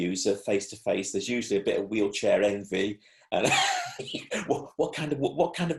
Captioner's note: laughs